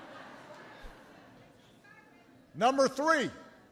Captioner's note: laughter